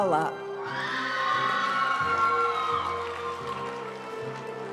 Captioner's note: audience cheering and applauding; graduation music